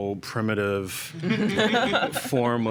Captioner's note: laughter